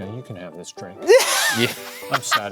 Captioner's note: laughing